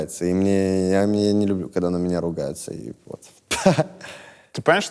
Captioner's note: laughs